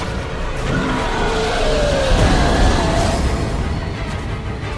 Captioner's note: monster growling